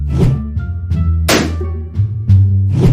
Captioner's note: whoosh; balloon pops